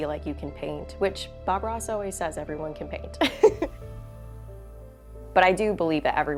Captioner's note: chuckles